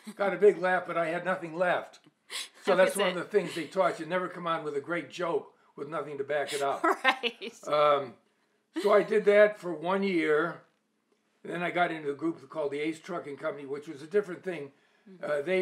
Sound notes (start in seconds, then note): 6.4 laughs